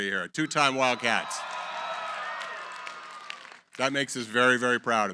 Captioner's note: cheering, applause